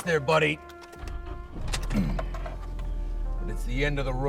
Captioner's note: Abe trying to get engine started